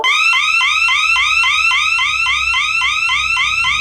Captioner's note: siren blaring